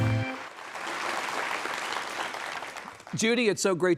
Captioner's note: audience applauding